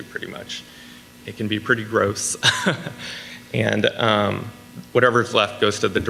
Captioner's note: laughs